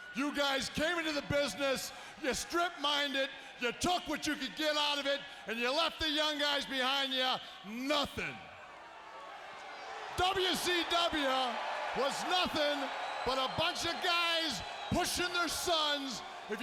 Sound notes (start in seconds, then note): 7.9 audience cheering